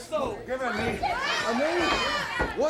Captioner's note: crowd chatter